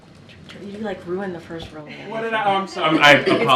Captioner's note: laughter